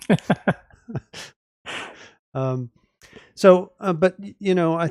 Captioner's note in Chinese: 笑声